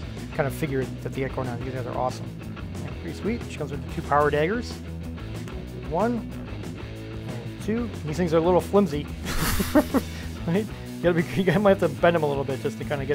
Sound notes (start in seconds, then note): 9.2 laughs